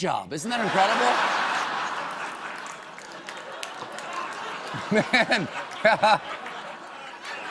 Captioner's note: laughter